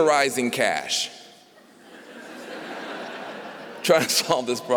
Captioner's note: laughter